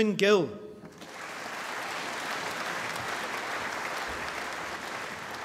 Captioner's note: applause